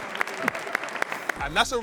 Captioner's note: participants clapping